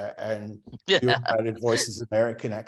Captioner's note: laughs